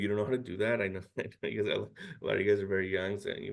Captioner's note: chuckles